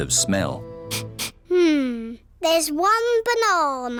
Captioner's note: sniffs